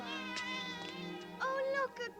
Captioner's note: cat meowing